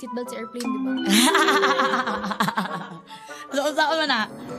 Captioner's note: laughs